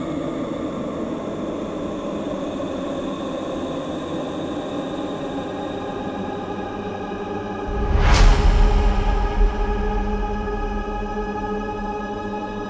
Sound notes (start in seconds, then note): 7.6 image crashes